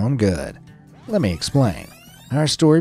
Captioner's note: tape rewinding